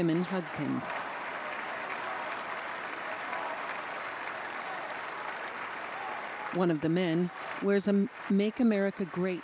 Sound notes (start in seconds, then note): 3.8 cheers and applause